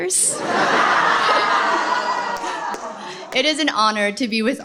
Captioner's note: laughter